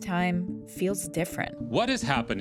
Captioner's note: soundbite of archived recording